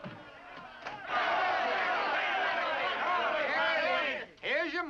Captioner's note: men shouting